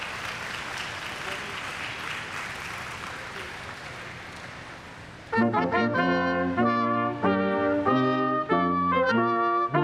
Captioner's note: applause